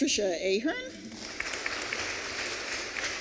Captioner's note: applause